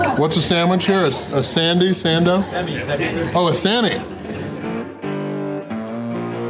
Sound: crowd

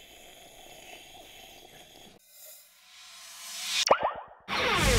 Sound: slurping sounds

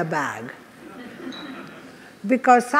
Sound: audience laughs

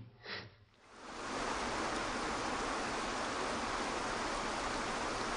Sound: waterfall burbling

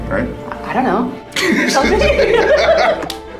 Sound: laughter

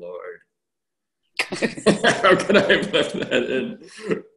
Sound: laughs

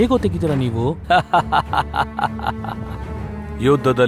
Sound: laughs

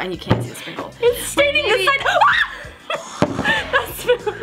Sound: scream

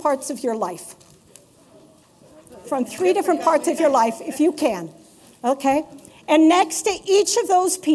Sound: laughter

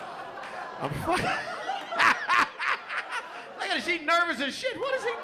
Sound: laughs

